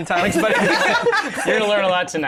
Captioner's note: laughter